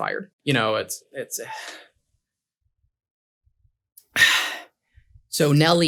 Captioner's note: awkward firing scenario begins with nervous sighing and swallowing noises